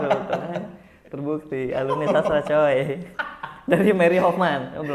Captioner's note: laughing